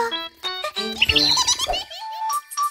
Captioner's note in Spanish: Sonido de pájaro